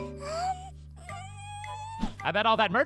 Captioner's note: air whooshing